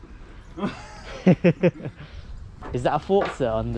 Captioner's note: laughs